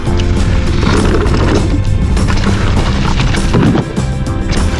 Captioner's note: bike tires on trail